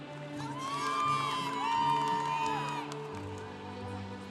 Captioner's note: congregation cheering